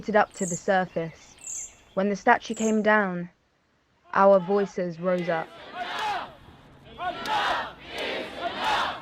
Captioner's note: background crowds chants: Enough is enough. Enough is enough